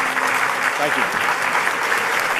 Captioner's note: applause